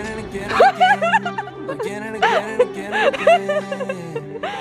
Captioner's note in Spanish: chicas riendo